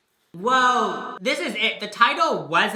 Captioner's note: echoing